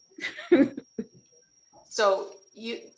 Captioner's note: laughs